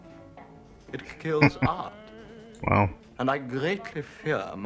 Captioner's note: chuckling